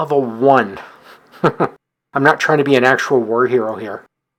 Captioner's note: chuckles